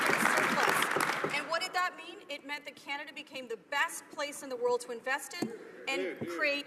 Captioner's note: some Applause